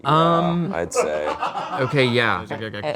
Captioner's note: crew laughing